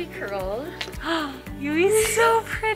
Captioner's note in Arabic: تلهث